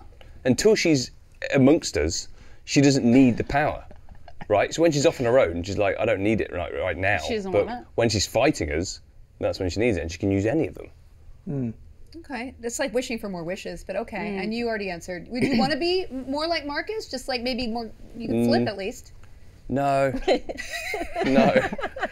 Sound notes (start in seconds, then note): 20.1 Tom laughing; 20.3 laughs